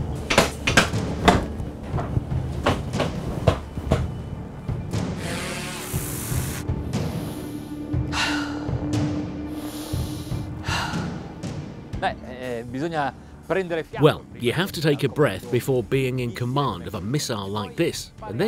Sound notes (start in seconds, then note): 6.8 breathes deeply; 12.8 speaking in foreign language